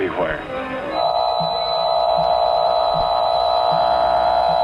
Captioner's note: beam emitting